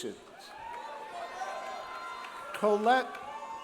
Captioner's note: audience cheering